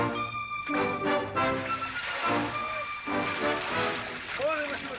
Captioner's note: liquid pouring